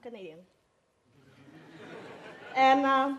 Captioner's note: audience laughs